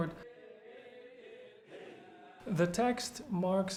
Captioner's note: group chanting in foreign language